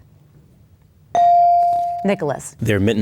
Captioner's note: bell dings